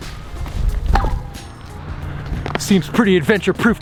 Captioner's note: clank